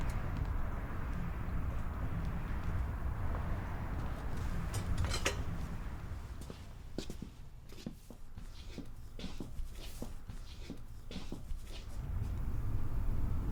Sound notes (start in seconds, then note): 0.1 traffic humming faintly continues; 6.2 feet shuffling